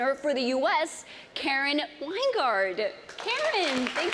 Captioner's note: applause